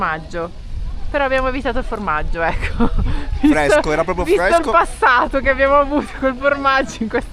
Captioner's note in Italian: risate